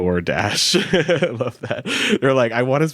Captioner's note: chuckles